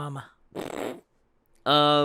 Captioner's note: snort